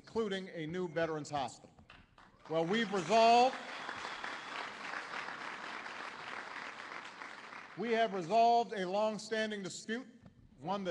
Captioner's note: applause